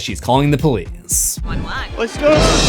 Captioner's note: screams